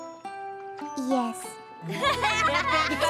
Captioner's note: normal voice; laughter